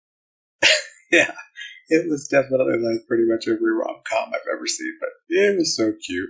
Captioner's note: chuckling